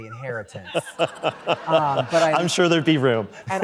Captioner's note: laughter